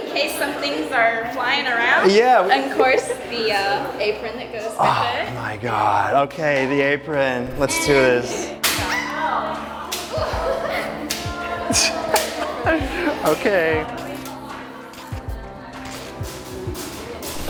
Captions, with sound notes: -In case some things are flying around. Of course, the apron that goes with it. -Oh my God. The apron. Let's do this. [whip cracking] [squealing] [chuckles] Okay.